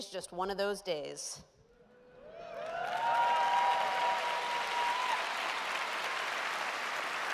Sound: cheers and applause

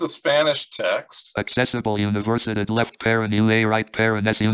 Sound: speaking spanish

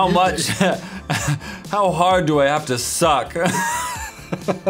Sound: laughs; laughs

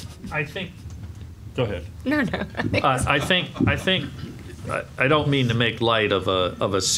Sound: laugh

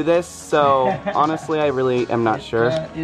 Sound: laughs

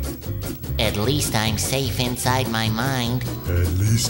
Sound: SpongeBob's internal voice

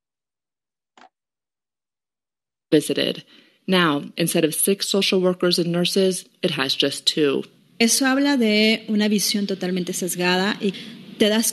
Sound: speaking in Spanish

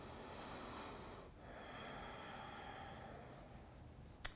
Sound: breathes deeply

